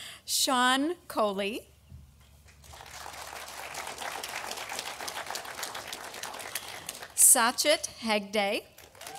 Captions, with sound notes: Sean Choley, (audience applauding) Satchit Hegde,